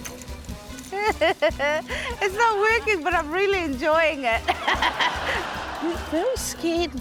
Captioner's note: laughs